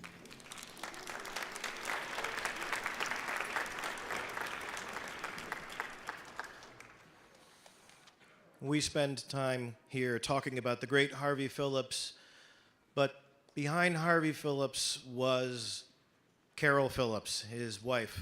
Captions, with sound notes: [audience clapping] We spend time here talking about the great Harvey Phillips. But behind Harvey Phillips was Carol Phillips, his wife.